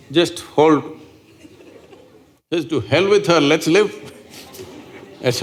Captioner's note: laughter